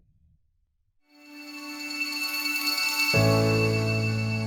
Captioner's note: bells chiming